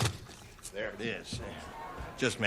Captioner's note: crunching